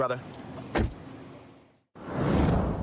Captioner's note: door shuts